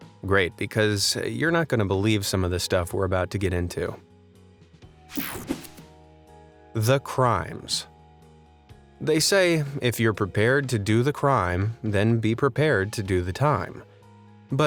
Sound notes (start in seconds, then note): 5.1 image whooshing; 5.2 calm music